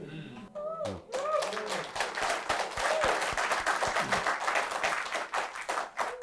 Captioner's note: applause